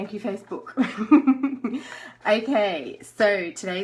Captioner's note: laughs